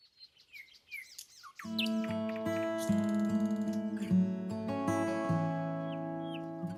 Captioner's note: birds tweeting; tranquil music